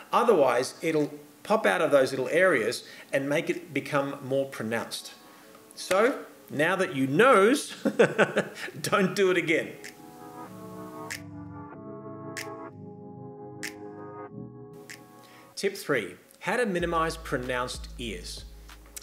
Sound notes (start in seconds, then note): 7.8 laughs